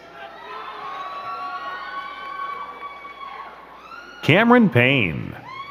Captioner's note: crowd cheering and clapping